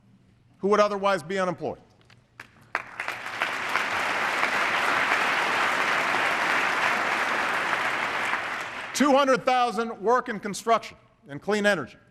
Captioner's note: applause